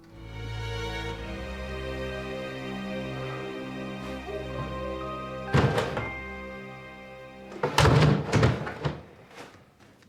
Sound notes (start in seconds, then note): 5.5 trash can lid